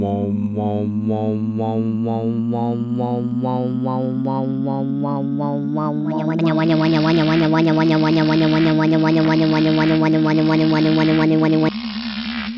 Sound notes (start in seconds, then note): 6.4 motor slowing down